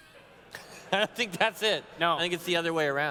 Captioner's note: laughs